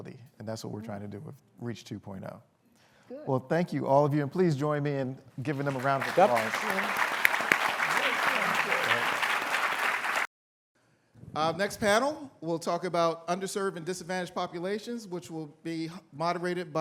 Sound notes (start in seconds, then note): 10.0 applause